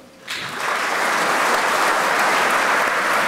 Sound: applause

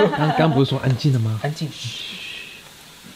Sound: shhhh

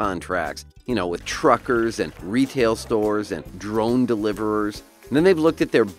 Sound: drone flying in the air

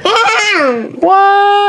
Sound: assistant laughs

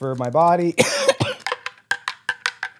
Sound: cough cough

